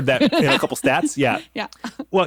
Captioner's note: laughs